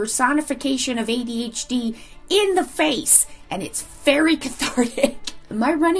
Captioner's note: laughs